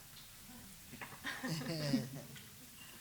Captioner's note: chuckling